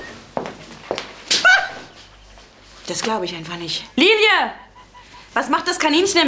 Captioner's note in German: Schreit kurz auf